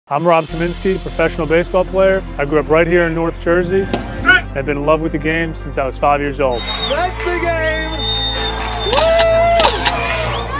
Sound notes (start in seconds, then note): 6.5 crowd cheering